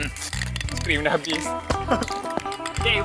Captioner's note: laughs